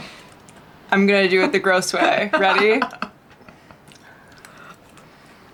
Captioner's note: laughter